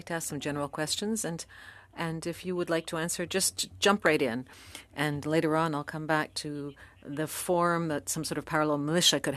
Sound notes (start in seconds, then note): 1.0 speaking French